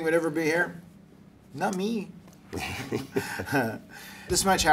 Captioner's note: laugh